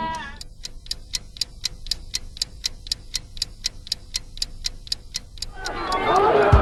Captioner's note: tick-Tock